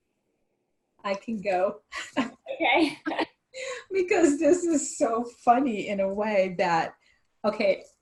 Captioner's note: laughs